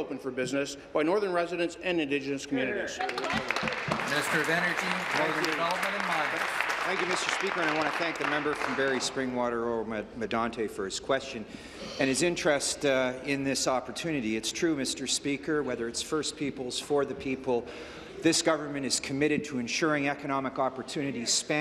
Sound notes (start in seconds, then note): 6.7 applause